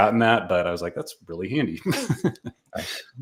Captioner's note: laughing